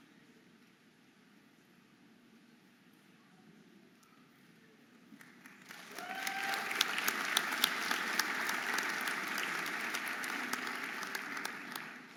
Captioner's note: audience applauding and cheering